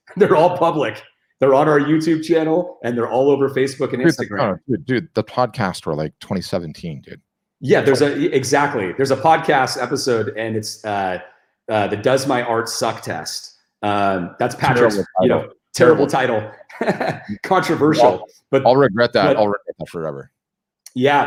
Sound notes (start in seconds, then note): 16.5 laughs